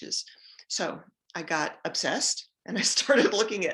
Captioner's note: giggles